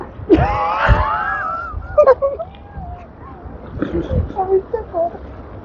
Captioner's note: laughing